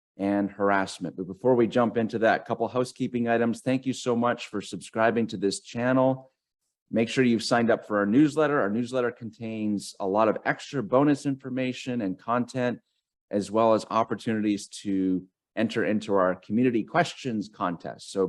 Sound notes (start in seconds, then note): none